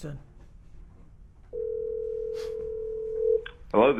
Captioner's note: phone ringing